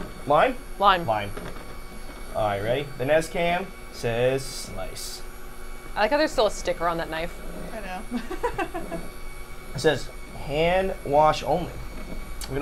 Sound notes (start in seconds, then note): 8.1 laughing